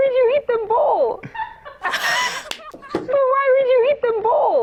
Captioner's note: cracking up